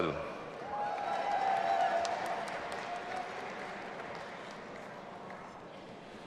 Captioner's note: audience applauding and cheering